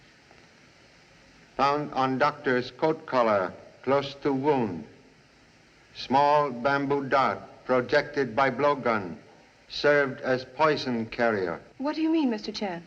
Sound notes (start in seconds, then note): none